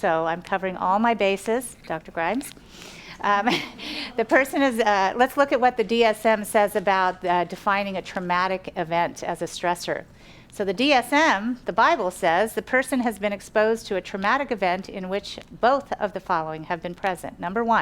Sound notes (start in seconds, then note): 3.3 laughs